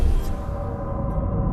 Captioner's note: pop, engine roaring